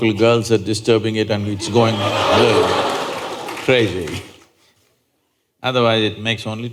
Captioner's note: laughter